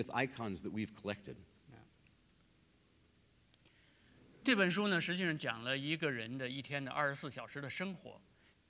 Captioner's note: speaking in Chinese; speaking in Chinese